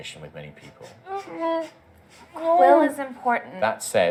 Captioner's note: un-subtle sounds of disagreement